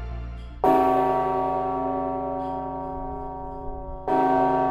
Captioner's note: loud bell ringing